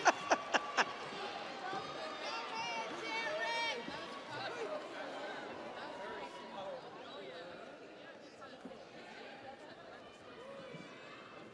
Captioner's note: audience applauds; audience cheers; laughs